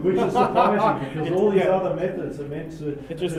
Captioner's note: laugh